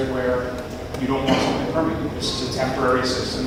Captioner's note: audience coughing drowns out speaker